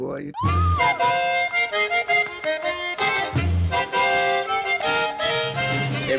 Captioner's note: woman screaming; upbeat music